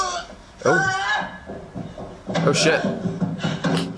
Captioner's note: woman groans; thumping